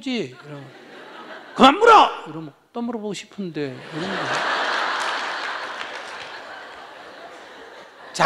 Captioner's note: audience Laughter